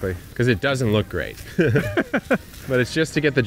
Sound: both laugh

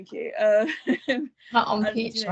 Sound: laughs

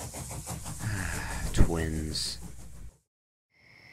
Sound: sigh

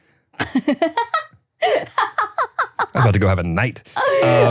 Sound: laughing

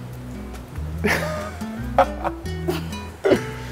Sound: laughs

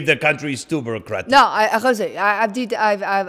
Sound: speaking in a foreign language

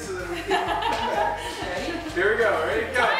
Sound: laughter

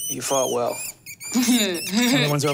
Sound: rats squeaking

